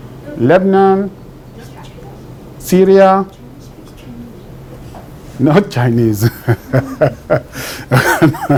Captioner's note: laughs